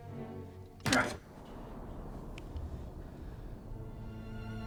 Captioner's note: blow thuds